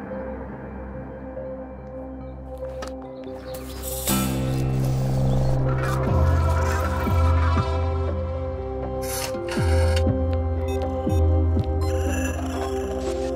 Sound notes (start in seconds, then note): 6.5 digital noises; 9.1 rotary phone swooshing; 11.6 digital beeps